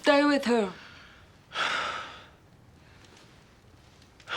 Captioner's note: sighs